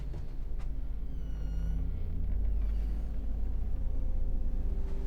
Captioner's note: door squeaks